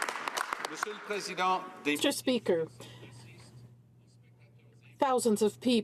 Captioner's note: some Applause